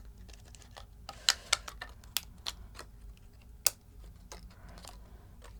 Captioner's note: plastic bottle crunching